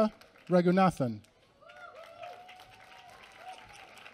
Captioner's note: applause